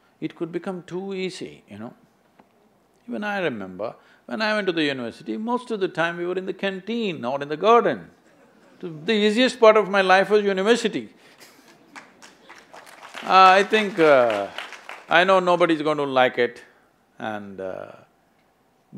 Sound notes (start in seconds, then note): 11.6 applause; 11.7 laughs